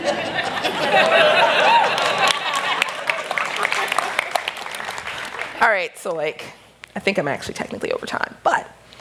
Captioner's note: applause